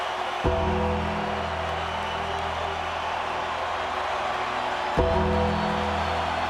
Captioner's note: audience cheering; ominous music